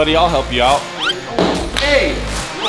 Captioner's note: cone thuds